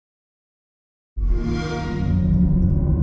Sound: xbox sound

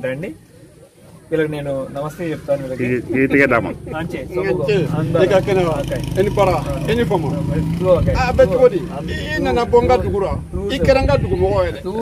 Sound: speaking in Foreign language

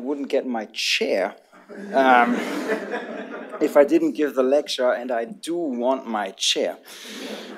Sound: laughter; laughter

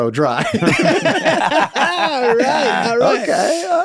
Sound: all laughing

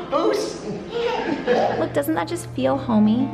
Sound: laughs

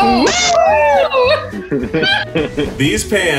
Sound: laughing

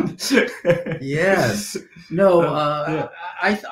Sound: laughing

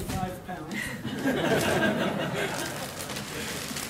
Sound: laughter

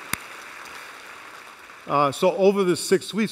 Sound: applause

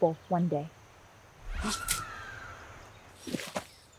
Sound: distant scream

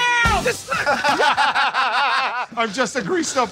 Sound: laughing

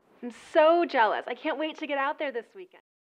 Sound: people chatting

